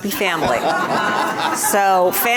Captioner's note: audience laughs